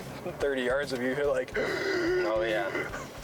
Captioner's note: gasps